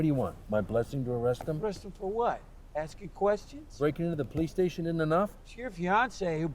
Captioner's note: none